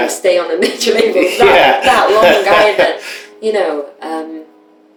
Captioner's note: laughter